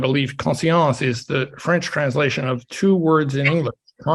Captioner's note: speaks French